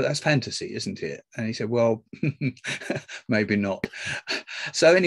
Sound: laughs

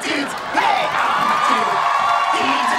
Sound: cheering

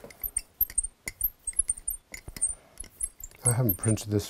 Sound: engraving tool squeaks

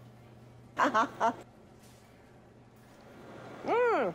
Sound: chuckles

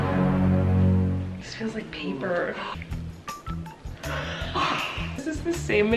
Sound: dramatic music; chuckles

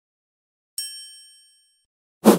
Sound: bell rings; air swishes

